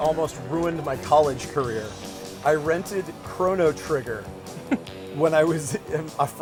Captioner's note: laughter